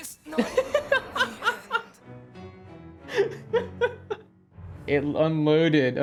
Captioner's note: laughing